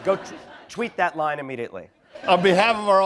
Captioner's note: laughter